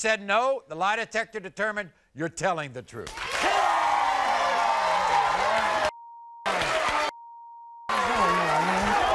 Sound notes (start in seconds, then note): 2.9 crowd cheering; 2.9 multiple beeps